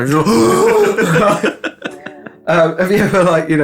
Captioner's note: Arsehole gulps in Spanish